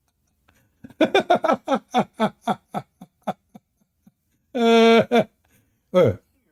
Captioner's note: Ketawa